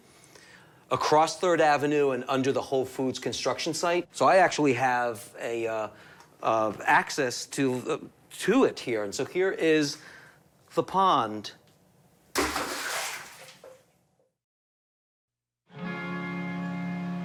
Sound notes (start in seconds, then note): 12.3 splash